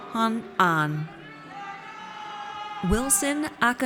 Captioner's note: audience cheers